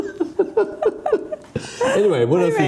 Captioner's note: laughing